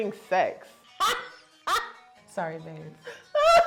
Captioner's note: laughing